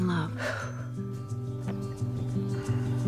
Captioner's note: exhales